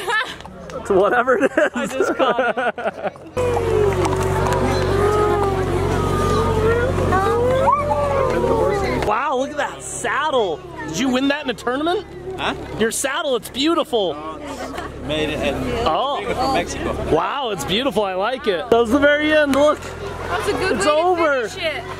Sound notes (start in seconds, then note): 0.0 laughs; 3.8 laughs; 5.6 crowd coos